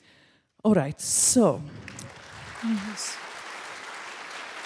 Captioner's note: crowd clapping